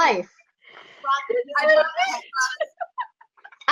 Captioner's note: laughing